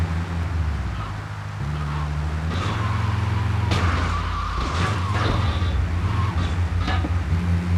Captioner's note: car engine roaring